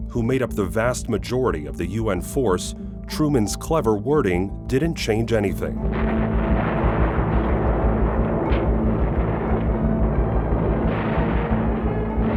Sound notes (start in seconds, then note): 5.8 explosions